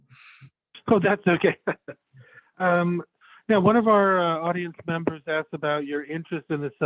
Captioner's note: laughing